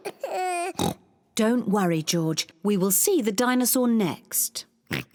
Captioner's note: cries; oinks; oinks